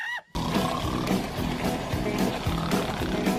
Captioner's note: snoring